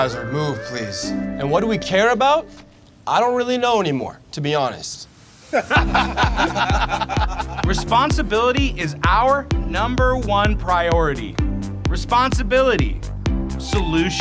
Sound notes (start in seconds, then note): 5.5 all laughing